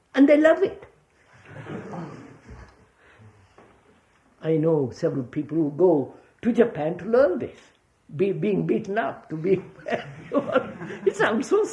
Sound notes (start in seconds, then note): 3.4 laughter; 9.4 laughs